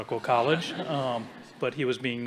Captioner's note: audience chuckling